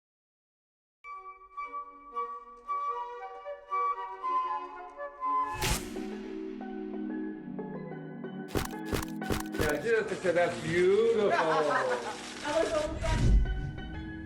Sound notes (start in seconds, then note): 1.1 gentle classical music; 5.4 camera snapping; 11.4 laughing